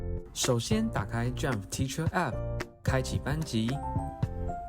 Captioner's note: speaking Chinese